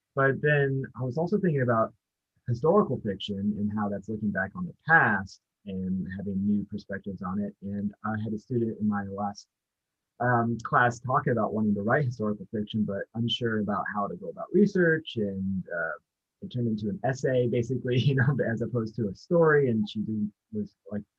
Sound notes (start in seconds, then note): 17.6 chuckles